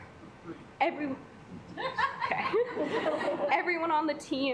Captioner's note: assembly chuckling